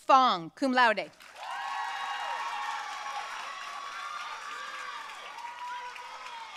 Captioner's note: audience cheering and applauding